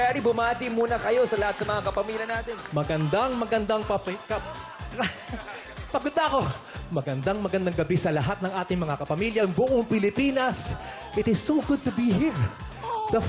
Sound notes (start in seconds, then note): 4.9 laughing